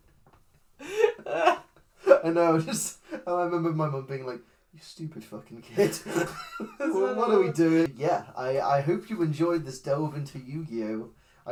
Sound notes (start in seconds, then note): 0.8 laughs; 5.7 laughs